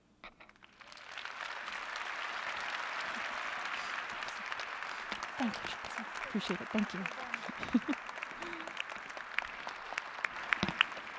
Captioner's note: applause